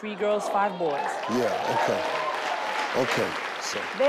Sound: audience cheer

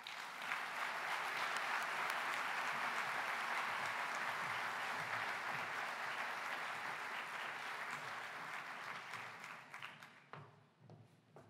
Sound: applause

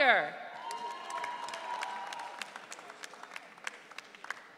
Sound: audience cheering

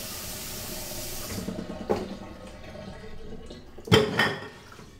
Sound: dishes clattering

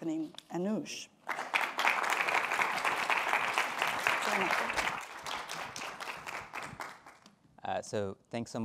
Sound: applause

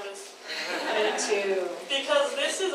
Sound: audience laughs

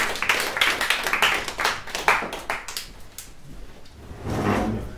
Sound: applause

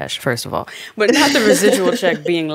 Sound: Franchesca laughing

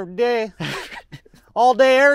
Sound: laughing

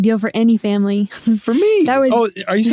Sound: laughs

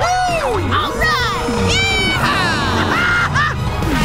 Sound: laughs

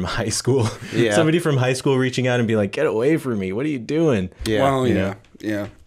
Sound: chuckle

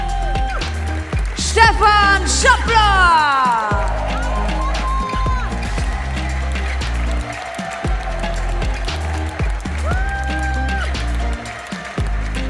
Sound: applause

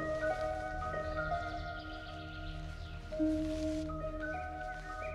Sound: birds chirp

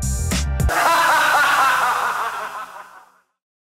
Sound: ghostly laughs

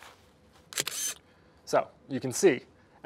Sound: camera clicks

